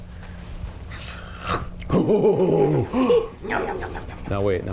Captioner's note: mom makes playful chomping sound with puppet. laughs